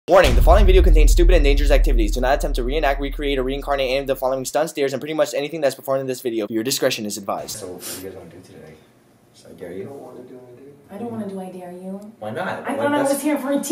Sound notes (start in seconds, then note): 10.6 quietly, unsure